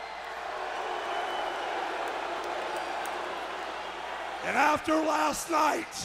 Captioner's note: crowd cheering